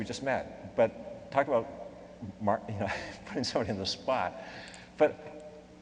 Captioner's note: laughs